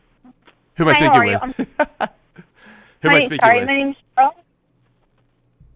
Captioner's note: laughter